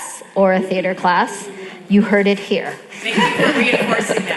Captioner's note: laughs